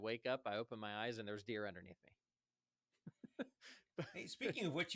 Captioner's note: laughs